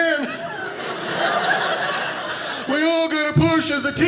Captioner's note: audience laughing